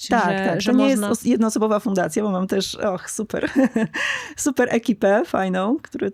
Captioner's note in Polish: śmiech